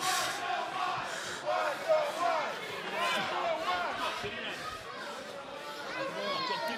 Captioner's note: fans chanting